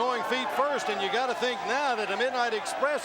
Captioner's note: crowd chatter